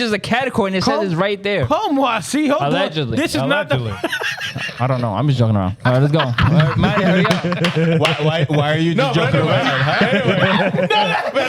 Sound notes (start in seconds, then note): 5.8 laughing